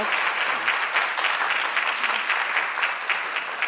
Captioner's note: applause